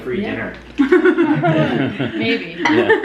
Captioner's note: laughter